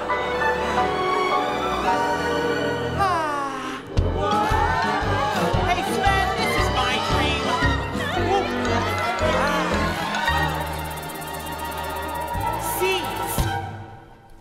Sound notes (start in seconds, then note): 0.1 majestic orchestral music; 3.0 all sigh; 8.1 all chattering; 11.1 anticipatory music